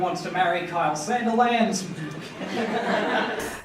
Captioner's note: laughter